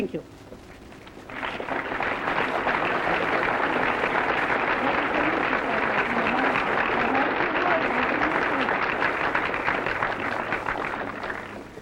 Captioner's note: applause